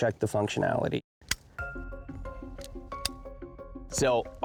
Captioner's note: clicking